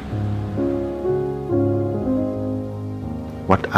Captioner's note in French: Le bruit des vagues s'évanouit, la musique en fond continue